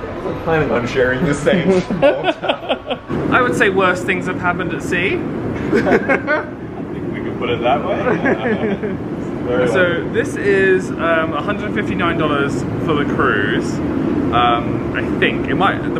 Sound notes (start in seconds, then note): 1.2 they laugh; 6.6 laughs; 9.0 they laugh